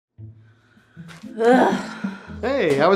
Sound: wife groaning

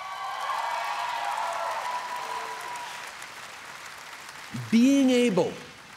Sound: cheers & applause

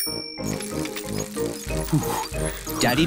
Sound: bell rings; panting

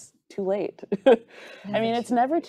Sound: chuckles

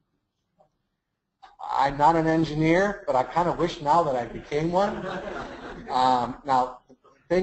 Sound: laughs

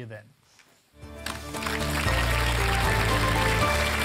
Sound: applause

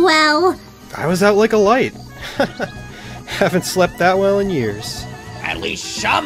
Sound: chuckles

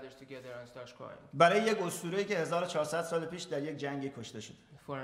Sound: speaking in farsi

